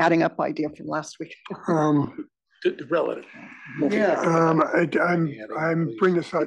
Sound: laugh

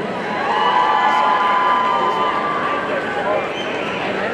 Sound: audience cheering

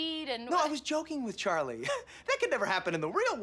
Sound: chuckles

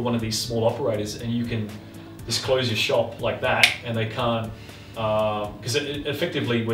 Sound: finger snap

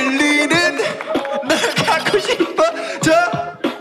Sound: laughing

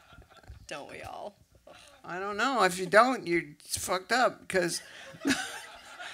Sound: laughs

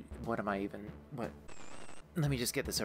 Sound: static

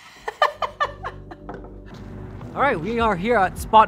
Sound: laughs

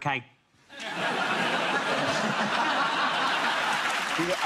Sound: audience laughs

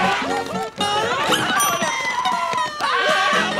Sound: ding; screaming

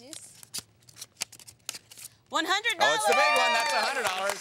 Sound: cheering

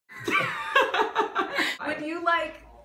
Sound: everyone laughing

